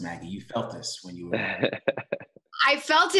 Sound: chuckles

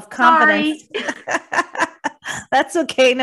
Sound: laughs

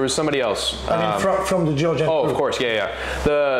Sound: à parler Anglais

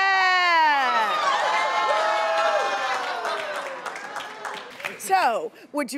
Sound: crowd groans and laughs

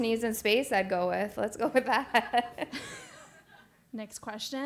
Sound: laugh

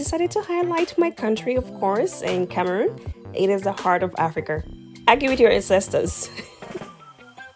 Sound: laughs

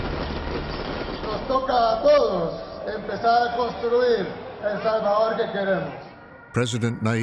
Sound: speaking Spanish

